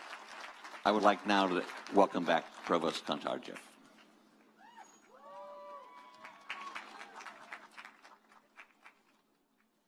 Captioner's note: cheers and applause